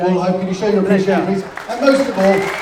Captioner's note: applause